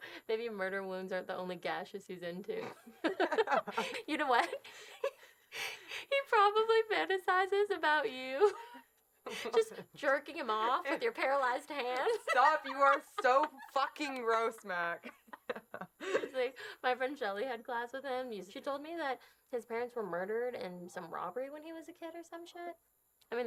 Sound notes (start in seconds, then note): 2.6 both laughing